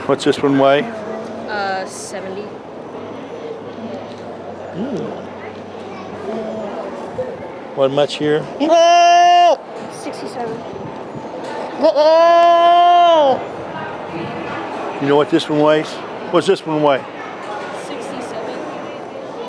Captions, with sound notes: What’s this one weigh? Uh, 70 What much here? 67 [goat bleeting] You know what this one weighs? Whats this one weigh? 67